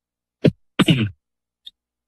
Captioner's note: coughs